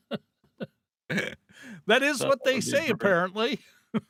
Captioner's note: laughing